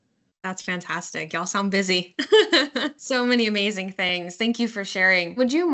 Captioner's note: laughing